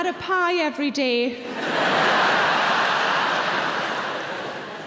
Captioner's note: audience laughing